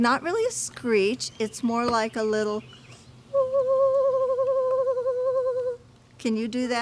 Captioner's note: imitates owl